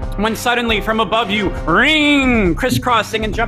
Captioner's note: mimics revving engine